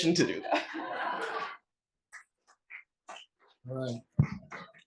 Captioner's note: laugh